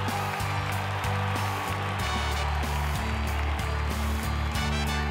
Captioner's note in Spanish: aclamaciones; aplausos